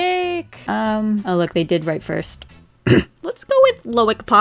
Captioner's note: cough